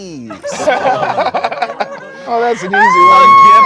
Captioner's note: group laughs